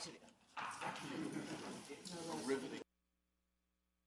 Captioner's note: laughing